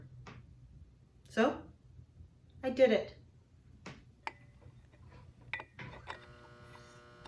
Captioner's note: sound of a lightbulb being screwed in